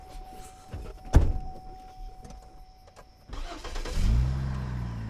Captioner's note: car door opening and closing; car engine roaring; tires screeching